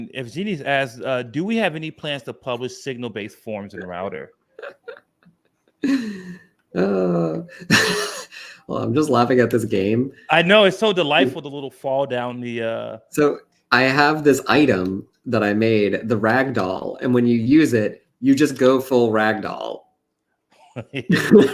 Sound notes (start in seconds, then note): 4.5 laughs